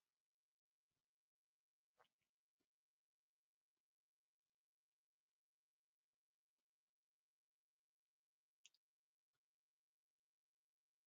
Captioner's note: 14 seconds pause